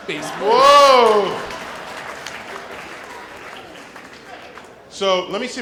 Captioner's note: laughter and applause